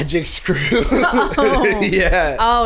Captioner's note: laughing